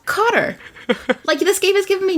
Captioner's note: laughs